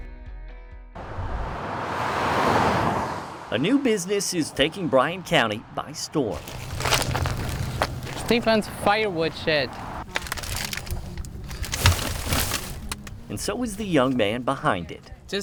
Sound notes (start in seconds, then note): 1.2 traffic whirring; 10.3 wood rustling